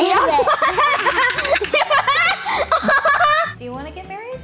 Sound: both laughing

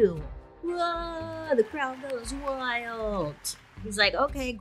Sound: crowd cheering

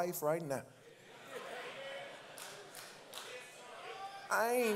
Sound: congregants call out

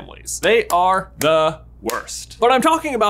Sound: clapping

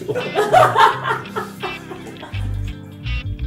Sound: laughter

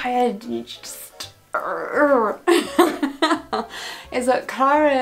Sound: groans; laughs

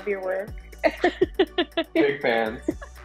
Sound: chuckles

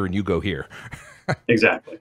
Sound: laughs

